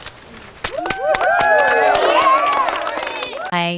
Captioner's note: cheering